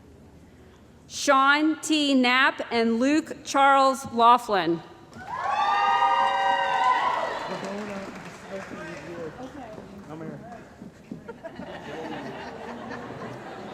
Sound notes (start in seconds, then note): 5.2 cheering & Applause; 9.6 laughter